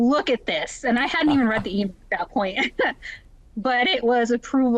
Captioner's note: laughs